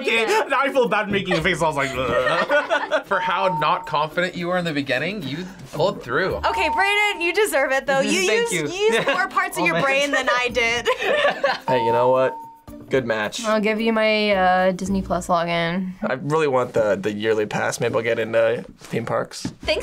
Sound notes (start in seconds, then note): 1.1 both laugh; 8.6 both laugh